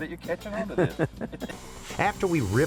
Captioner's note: both laugh